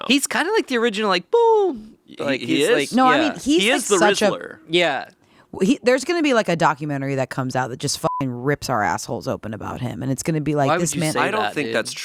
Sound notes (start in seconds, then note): 8.0 beeping